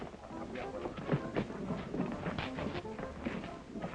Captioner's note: indistinct chatter